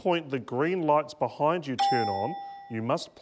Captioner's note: ding!